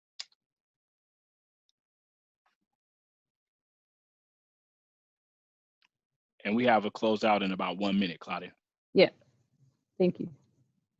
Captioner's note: laughing